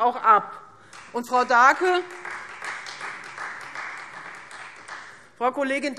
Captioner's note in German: Beifall Freie Demokraten